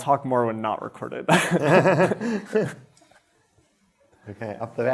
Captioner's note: laughter